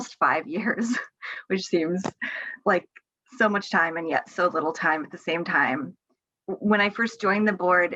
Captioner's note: laughs